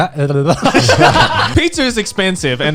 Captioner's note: laughing